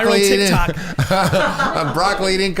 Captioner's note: laughing